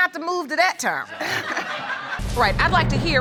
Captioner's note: audience laughs